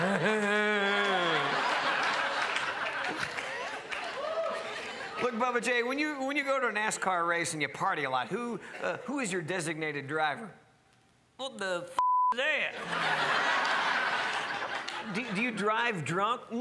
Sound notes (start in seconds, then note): 0.0 laughs; 12.0 beep; 12.7 crowd laughs